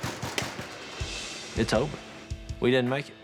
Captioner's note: door knocking